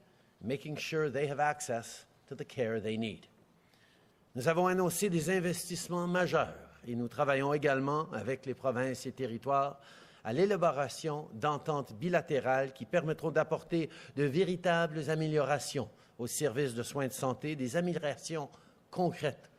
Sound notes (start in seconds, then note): 4.7 speaking French